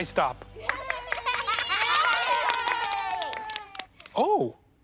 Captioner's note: cheering